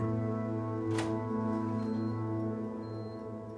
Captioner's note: door opens